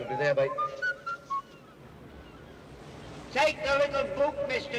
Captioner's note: whistling